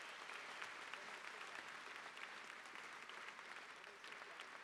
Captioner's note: audience applause